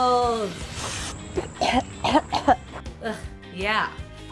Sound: coughing from the Chemicals

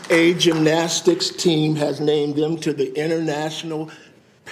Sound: applause

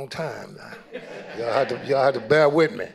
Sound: audience laughing

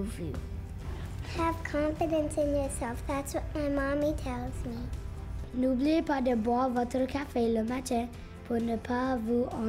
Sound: speaking French

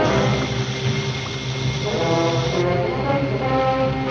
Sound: dynamite fuse hissing

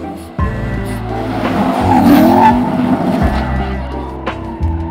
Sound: engine roaring

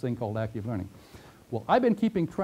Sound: pause

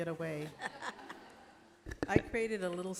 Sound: laughter

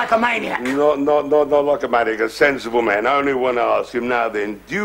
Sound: slurring

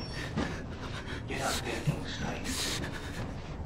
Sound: pants unevenly

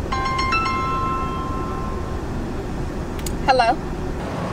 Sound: phone chiming

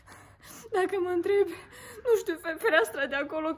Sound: speaking Debrecenish

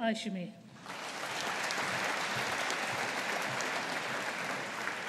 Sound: audience applauding

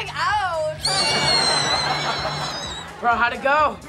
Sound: squealing

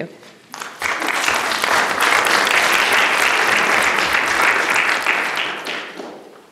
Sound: applause

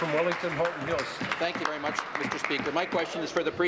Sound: applause

